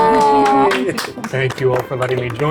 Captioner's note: palms clapping; players chuckling